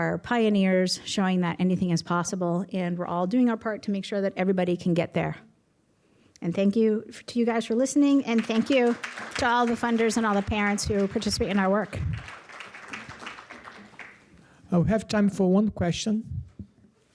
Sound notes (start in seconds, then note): 8.3 applause